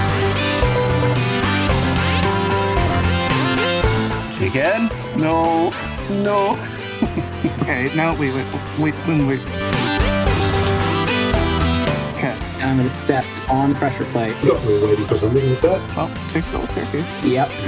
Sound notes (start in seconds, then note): 6.3 nervous giggling noises